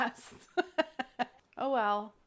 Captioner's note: laughs